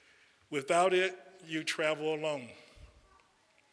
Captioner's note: none